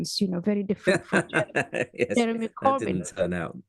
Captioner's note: laugh